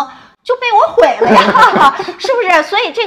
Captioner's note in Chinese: 哈哈